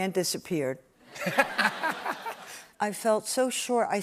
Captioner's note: laughter